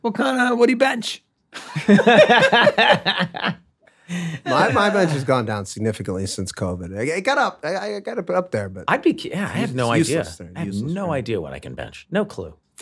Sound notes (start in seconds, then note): 1.5 all laughing loudly